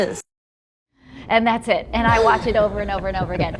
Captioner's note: others laughing